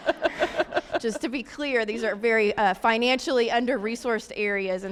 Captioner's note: laughter